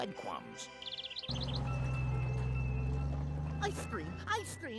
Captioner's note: bell ringing